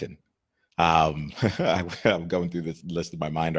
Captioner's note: laughs